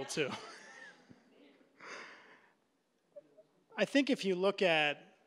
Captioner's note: laughing